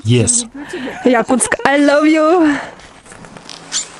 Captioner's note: laugh